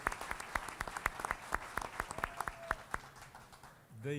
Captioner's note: applause